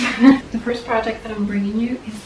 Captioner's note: chair noises, laugh